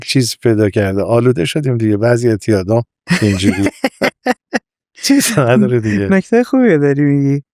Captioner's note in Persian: خنده